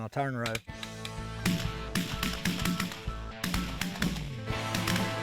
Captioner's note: gunshots blare